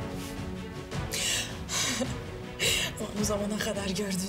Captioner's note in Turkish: Gülüyor